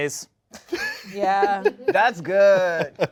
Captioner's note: laughs